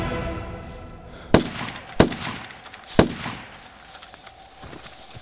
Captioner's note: gunshots bang